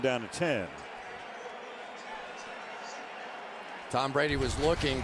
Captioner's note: pa announcement